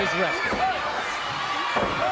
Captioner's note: crowd cheering